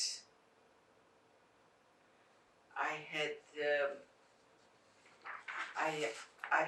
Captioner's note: pauses 6 seconds